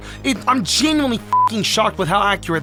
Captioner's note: beep